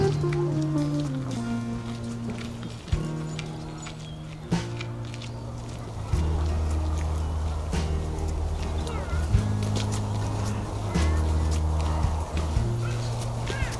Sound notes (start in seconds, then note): 1.7 sounds of footsteps